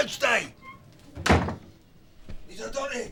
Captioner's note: door slams